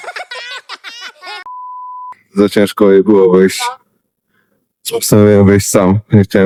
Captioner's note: laughter